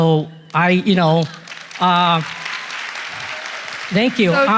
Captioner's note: applause